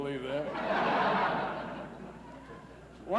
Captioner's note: laughs